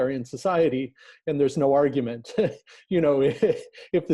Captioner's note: laughing